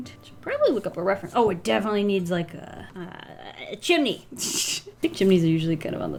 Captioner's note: chuckles